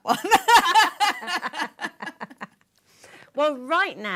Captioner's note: laughter